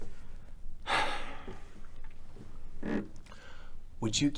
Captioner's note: Patrick sighs